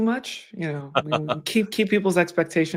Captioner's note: laughs